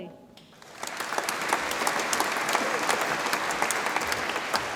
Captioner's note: audience applauds